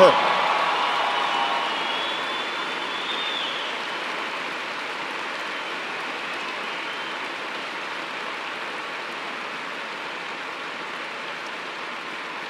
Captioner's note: cheers and applause